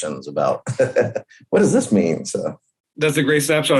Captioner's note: laughs